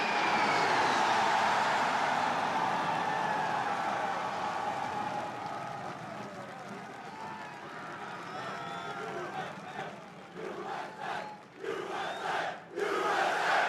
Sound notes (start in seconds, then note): 0.0 cheers; 11.6 audience chanting "U.S.A."